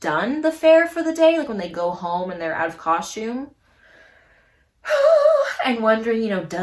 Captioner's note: sing-song sigh